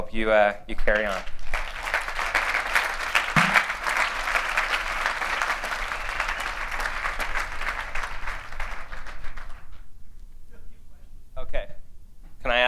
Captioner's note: applause